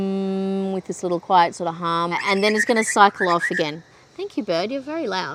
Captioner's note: bird calls loudly